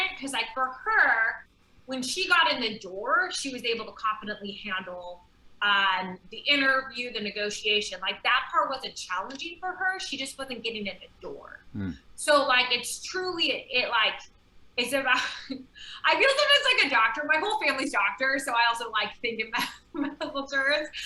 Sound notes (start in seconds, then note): 15.5 chuckling